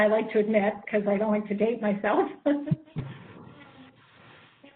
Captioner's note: laughs